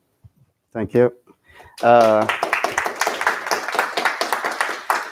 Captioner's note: applause